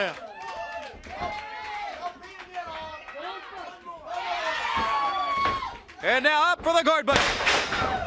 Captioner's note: crowd chatter